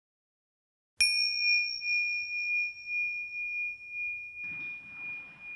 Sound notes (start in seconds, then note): 1.0 bell dings